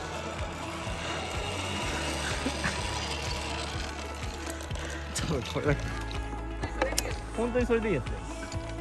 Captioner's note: laughs